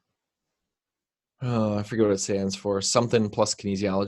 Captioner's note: exhales